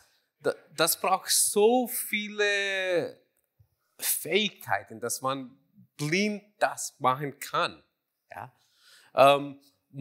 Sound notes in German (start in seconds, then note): none